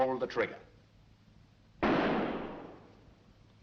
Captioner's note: bang